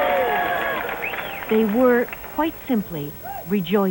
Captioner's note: cheering